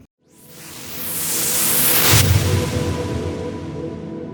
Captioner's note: whooshing